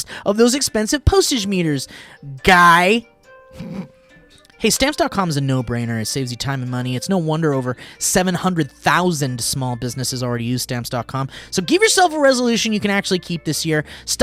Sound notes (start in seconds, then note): 3.5 laughing